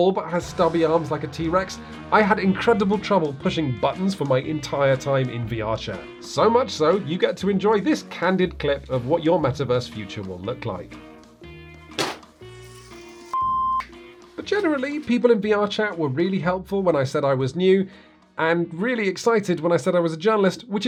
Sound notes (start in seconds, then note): 12.0 hand hitting table; 13.3 beep